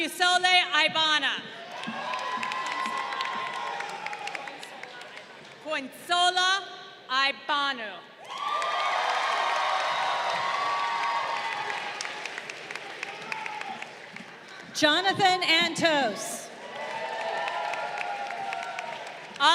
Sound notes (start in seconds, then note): 1.6 crowd cheering; 8.2 crowd cheering; 15.8 crowd cheering